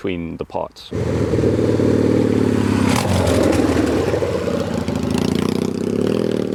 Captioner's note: engine roars